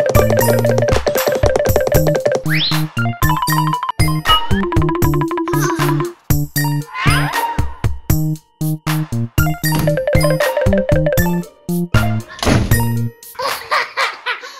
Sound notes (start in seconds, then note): 5.7 quiet laugh; 13.3 child laughing